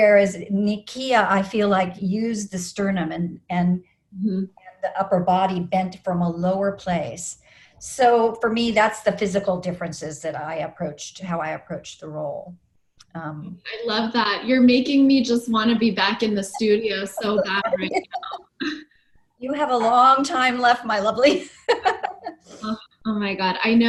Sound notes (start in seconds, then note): 21.6 laughs